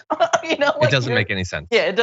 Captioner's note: laugh